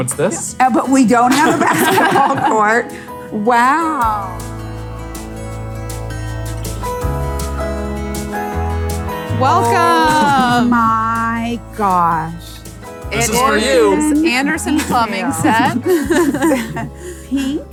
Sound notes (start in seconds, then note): 1.2 everyone laughs; 4.7 slow mellow music; 14.7 laughs